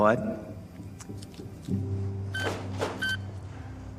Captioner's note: machine beeps